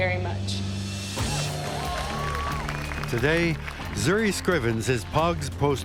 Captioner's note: crowd cheers